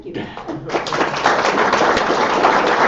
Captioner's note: chuckle and audience clapping